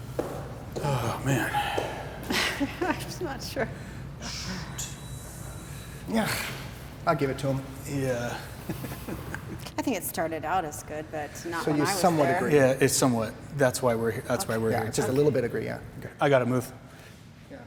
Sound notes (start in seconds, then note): 2.2 laughs nervously; 8.0 laughs